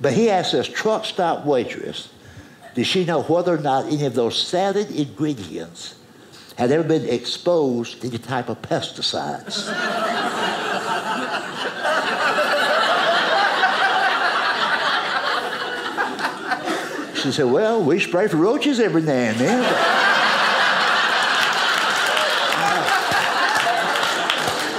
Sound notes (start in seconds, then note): 9.5 audience laughing; 20.1 audience applauding